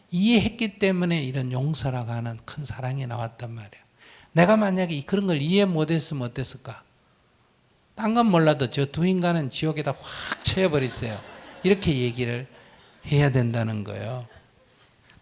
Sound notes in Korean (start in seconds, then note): 10.1 청중 웃음